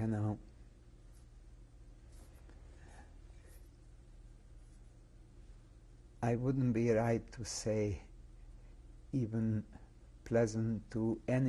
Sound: pauses for 6 seconds

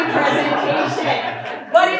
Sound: laughter

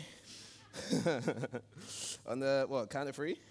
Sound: Tristan laughs

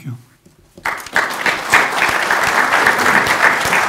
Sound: applause

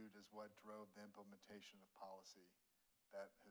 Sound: none

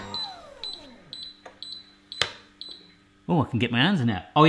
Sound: machine beeping

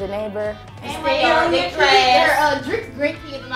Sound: voiceover

